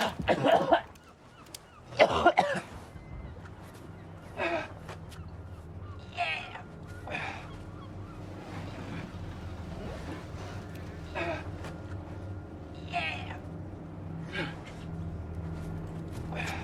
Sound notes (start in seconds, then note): 0.3 Robert coughing; 13.2 Robert grunting